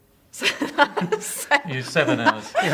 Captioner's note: laughing